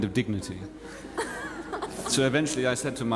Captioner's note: watson laughs